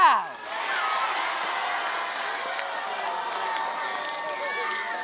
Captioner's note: applause